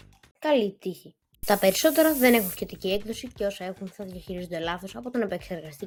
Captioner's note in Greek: ήχος ψεκασμού